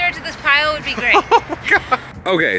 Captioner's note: chuckles